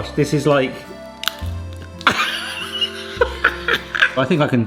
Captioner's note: laughs